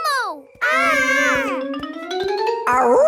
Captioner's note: kids yelling